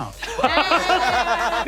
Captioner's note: players laughing